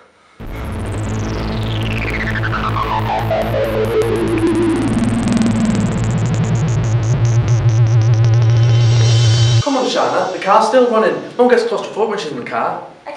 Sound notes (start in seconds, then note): 9.5 Welsh Accent